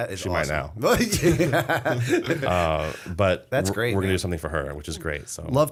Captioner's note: laughter